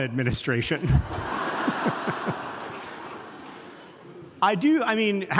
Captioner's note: audience laughing